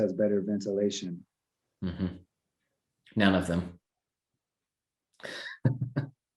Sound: chuckling

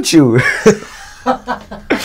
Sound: laughs

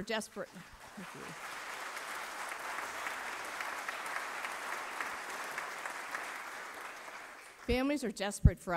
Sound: applause

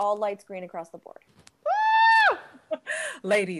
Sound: screams

